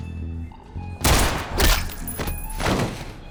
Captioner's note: gunshot; thud